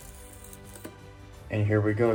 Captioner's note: pull tab quietly rips off of the box